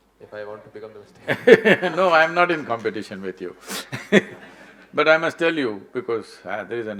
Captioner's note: laughs